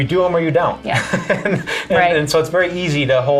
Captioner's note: laughs